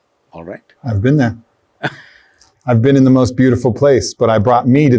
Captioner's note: Sadhguru laughs